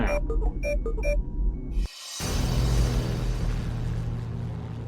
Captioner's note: control panel beeps